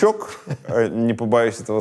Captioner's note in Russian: смеется